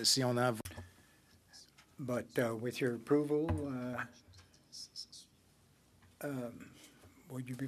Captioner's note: speaking French